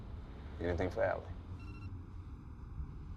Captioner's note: phone beeps